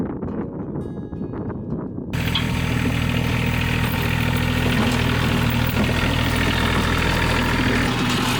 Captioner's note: engine revving